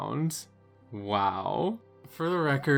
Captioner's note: extremely sarcastic